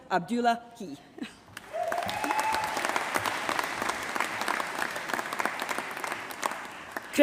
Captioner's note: applause